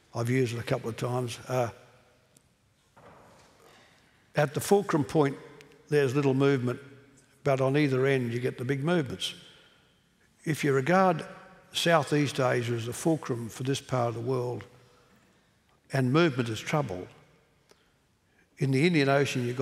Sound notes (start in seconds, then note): none